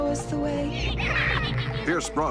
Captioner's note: laughing